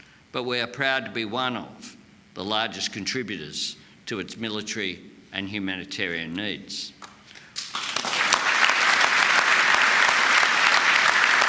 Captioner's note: applause